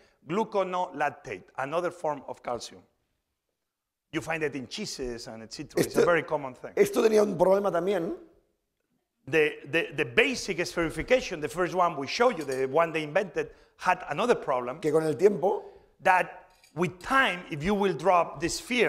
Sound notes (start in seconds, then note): 7.6 speaking spanish; 15.5 speaking spanish